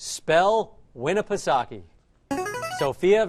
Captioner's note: answer bell